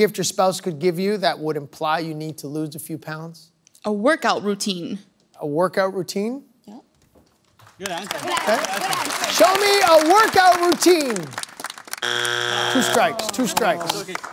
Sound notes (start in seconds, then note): 7.6 applause; 12.0 buzzer sounds